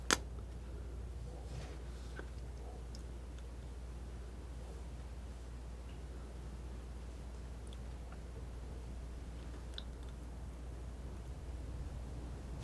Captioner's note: scissors snipping